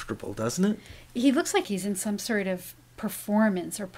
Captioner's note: voiceover